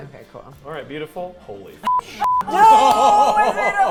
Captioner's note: beep